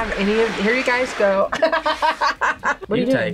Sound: laughs

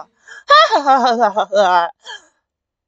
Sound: deadpan imitation of Sonic laugh

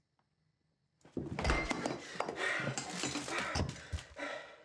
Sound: crashing; heavy breathing

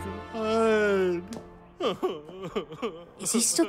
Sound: sniveling

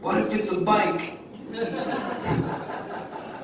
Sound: audience laughing

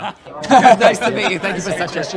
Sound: Mike laughs

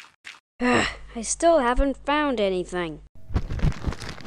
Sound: sigh

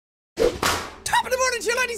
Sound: clap

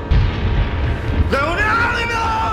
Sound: thunder crashes

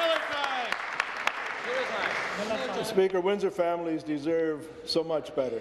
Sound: applause

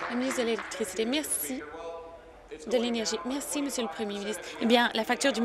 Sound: applause

